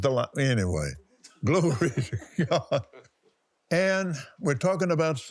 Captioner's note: laughs